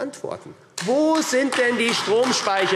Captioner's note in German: Beifall AfD